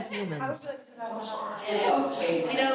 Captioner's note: inmates chattering